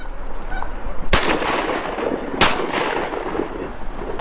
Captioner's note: gun fires